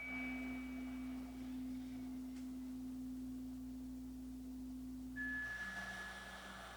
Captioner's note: chimes ringing continues; slow breathing continues